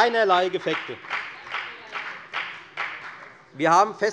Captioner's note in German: Beifall bei der FDP